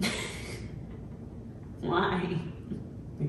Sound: woman chuckling

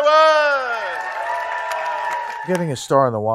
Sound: audience applauding

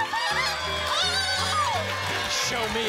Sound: applause and cheering

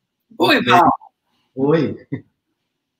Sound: speaks portuguese

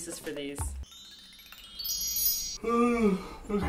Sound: dreamy chime

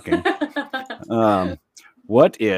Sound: laughing

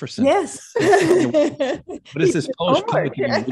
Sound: laughs

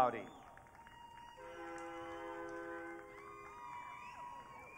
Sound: audience cheering

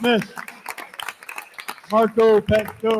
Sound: attendees continue applauding

